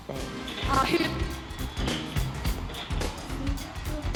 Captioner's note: microphone cuts in and out